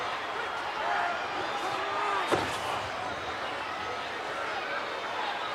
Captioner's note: audience members shouting